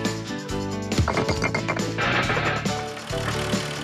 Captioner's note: bricks Clatter